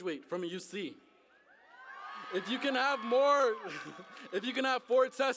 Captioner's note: cheering